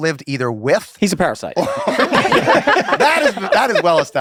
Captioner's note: laughter